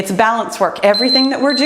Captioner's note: timer beeps